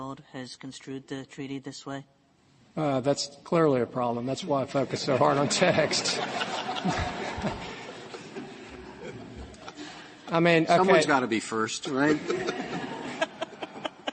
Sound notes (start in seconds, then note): 7.9 laughter; 12.0 laughter